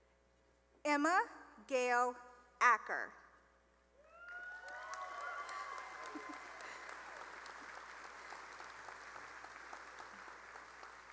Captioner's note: cheering and applause